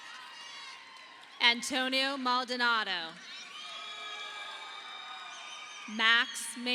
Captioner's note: audience applauding